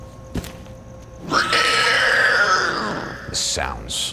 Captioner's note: creature shrieking